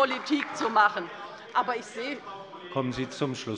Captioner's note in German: Beifall bei der LINKEN